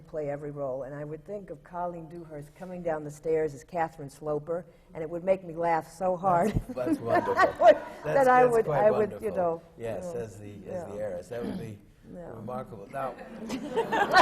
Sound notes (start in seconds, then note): 6.7 laughs